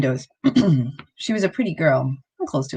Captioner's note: clears throat